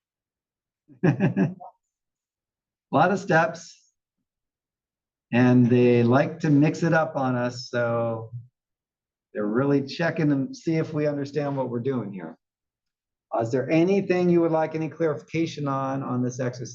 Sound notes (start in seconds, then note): 1.0 laugh